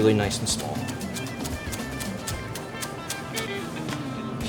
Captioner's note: knife slicing